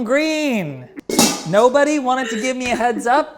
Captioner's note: lid clatters